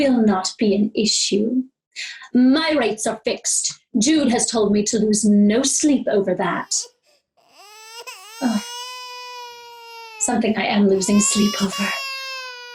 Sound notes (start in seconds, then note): 7.3 baby cries